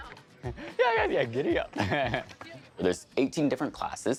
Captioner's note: laughing